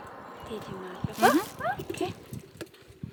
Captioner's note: in Georgian